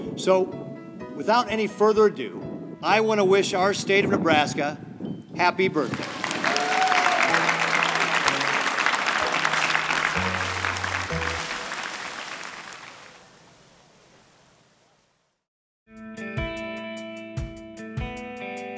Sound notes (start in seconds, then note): 5.9 cheering and applause; 16.0 upbeat rock music